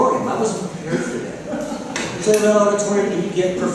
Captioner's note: laughter